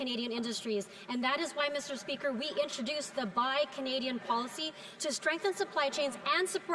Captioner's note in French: voix de l'interprète